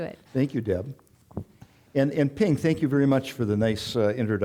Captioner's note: none